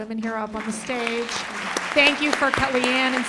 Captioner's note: applause